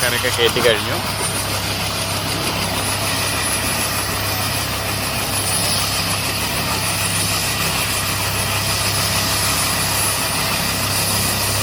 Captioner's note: helicopter whirring